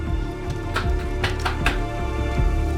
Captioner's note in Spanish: Toques en la pared